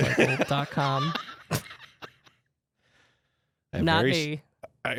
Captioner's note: laughs